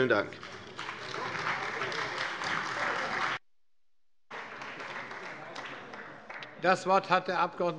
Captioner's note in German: Beifall bei der CDU und dem BÜNDNIS 90/DIE GRÜNEN